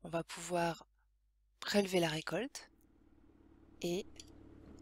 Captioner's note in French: bruit de tracteur